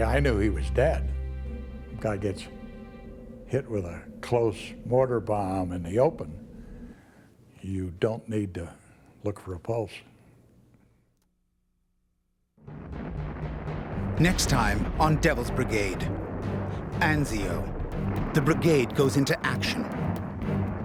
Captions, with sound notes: Guy gets hit with a close mortar bomb in the open, you don't need to look for a pulse. - [Voiceover] Next time on Devil's Brigade. Enzio, the Brigade goes into action. - What are all those things coming in?